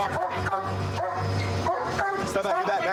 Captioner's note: barking